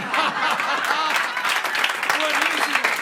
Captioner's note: laughter and applause